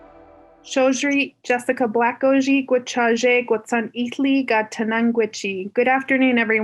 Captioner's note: foreign language